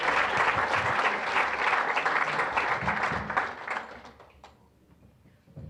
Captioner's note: applause, cheering; applause